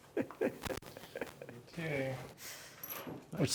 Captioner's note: laughs